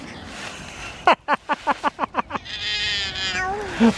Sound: laughing

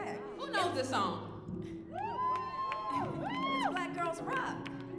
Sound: audience cheering

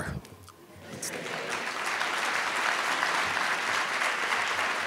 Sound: audience applauding

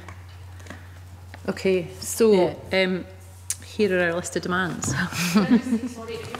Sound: laughs

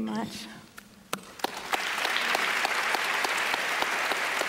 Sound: applause

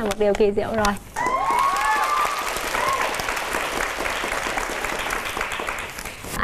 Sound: clapping hands

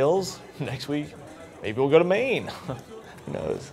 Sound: chuckles

